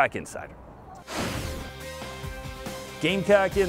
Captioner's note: air rushes